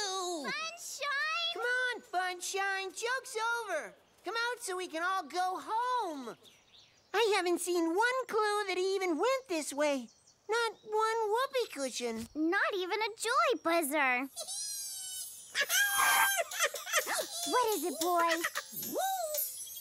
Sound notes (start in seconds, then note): 15.5 giggles; 16.4 excited laughter